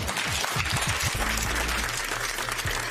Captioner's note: applause